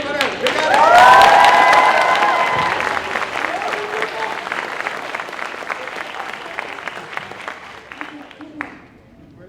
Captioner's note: applause